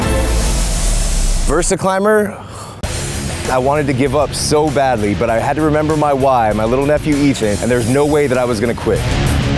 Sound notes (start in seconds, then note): 2.4 groans; 9.3 heavy metal music